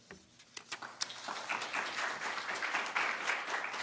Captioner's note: applause